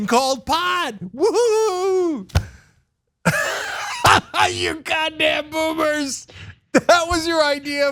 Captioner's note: laugh